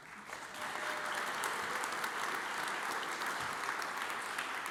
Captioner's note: audience applauds